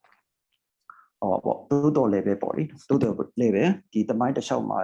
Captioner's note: speaking burmese